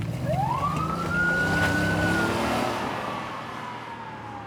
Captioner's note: police siren wailing